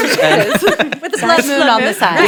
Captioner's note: laughs